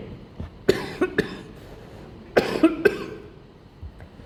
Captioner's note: coughing